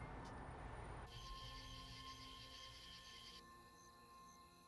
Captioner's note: crickets chirping